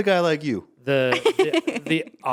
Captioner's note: laughing